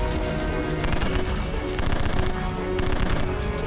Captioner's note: gunfire